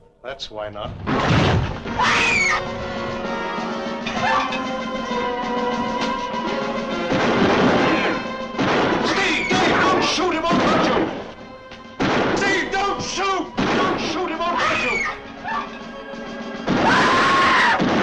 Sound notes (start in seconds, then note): 1.4 door banging; 1.9 Julie screaming; 7.0 gun firing; 14.4 Julie screaming; 14.4 gun firing; 17.8 suspenseful orchestral music